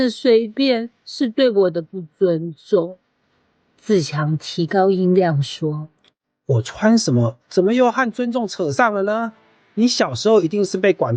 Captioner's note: raised his voice